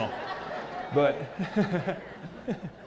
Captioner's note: laugh